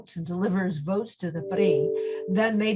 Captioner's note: speaks in foreign language